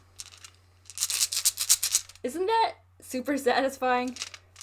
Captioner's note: rocks clinking